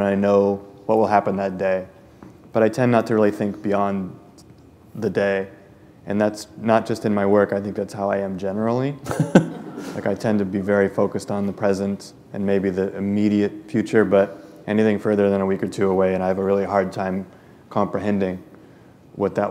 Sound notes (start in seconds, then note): 9.0 laughter